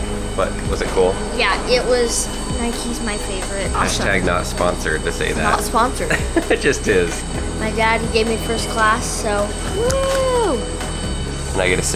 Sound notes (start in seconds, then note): 6.0 laughs